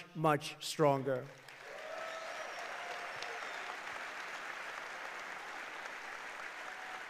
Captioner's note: applause